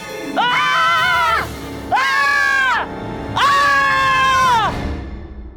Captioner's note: screams